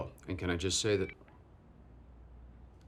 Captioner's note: phone cuts off abruptly